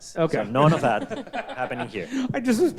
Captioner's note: all laugh